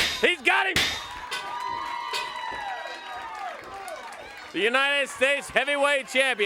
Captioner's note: crowd cheering